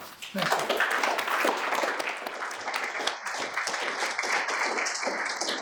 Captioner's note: audience applauding